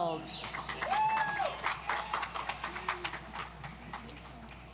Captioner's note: audience applauds